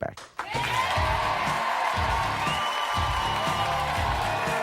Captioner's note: audience cheering